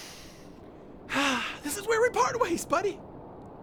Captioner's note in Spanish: suspiro